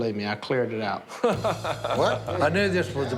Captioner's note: laughs